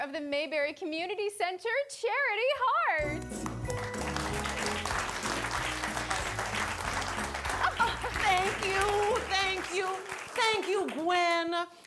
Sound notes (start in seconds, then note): 3.2 audience applauding